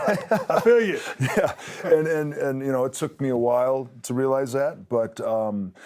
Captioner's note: laugh